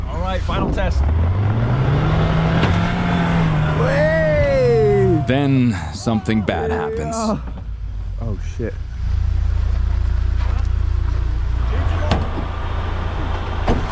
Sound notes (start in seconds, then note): 1.6 car engine roaring